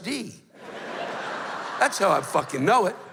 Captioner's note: laughter